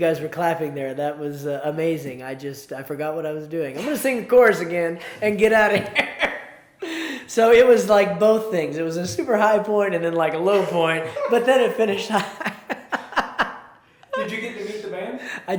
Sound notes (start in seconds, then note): 10.5 laughs